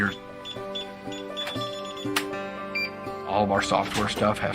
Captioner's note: electronic beeping